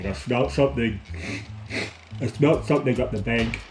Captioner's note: sniffs twice